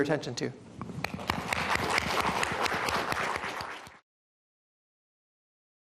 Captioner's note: applause